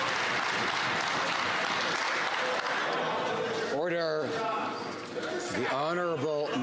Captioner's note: some Applause